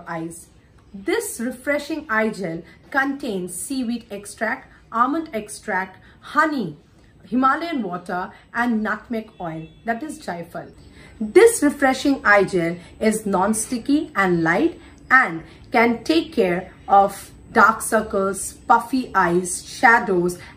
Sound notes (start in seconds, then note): 10.4 in hindi